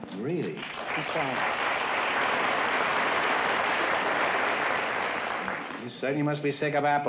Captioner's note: applause